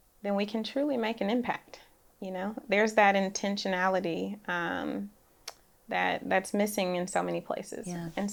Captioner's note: none